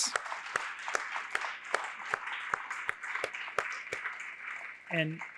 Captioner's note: applause